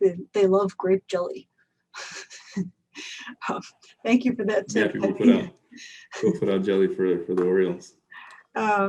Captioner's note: laughs